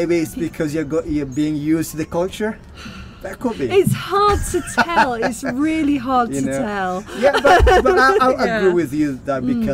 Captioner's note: sigh; laughing